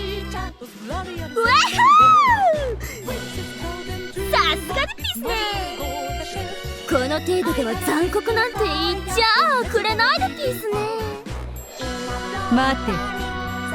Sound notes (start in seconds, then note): 1.8 giggle